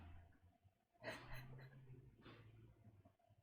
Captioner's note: laughs